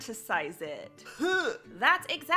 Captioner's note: gagging noise